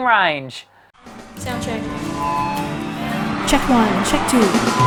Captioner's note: applause